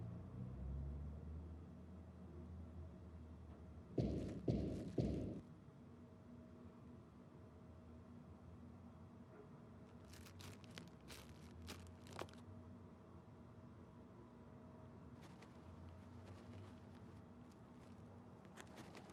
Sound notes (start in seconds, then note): 4.0 door knocking